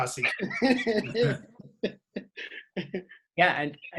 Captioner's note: laughs